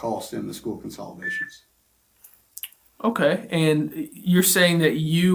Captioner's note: Fields’ cell phone makes noise